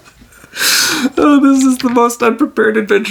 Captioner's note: laughs